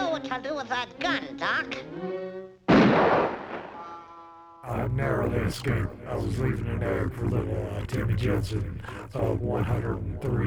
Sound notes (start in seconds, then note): 2.7 shotgun blast